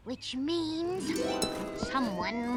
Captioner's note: police sirens